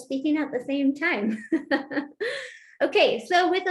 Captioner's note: laughter